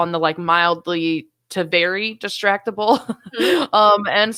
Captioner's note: laughing